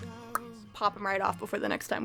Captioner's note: pop